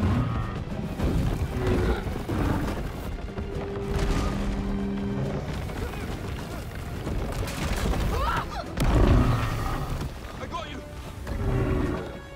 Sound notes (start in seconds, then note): 1.4 Themberchaud groaning; 5.6 all grunting; 8.1 screams